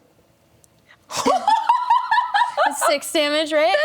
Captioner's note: laughs